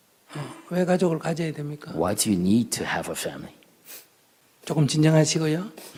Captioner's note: questioner Sniffling